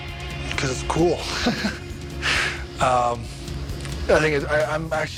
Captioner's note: laughs